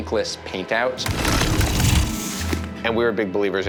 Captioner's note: alien roaring